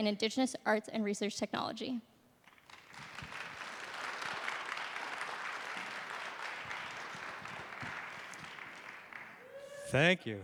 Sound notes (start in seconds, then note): 2.4 applause